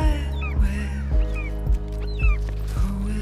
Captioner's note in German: Vogelkreischen